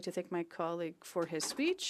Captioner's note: speaking French